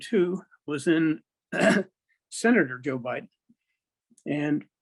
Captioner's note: clears throat